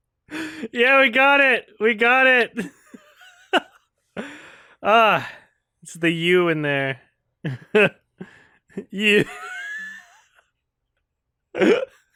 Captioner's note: chuckles